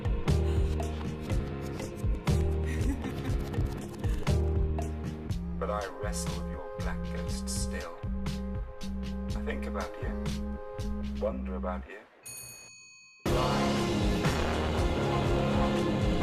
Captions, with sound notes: But I wrestle your bls acknesstill. I think about you, wonder about you. (bell rings) (upbeat urban music)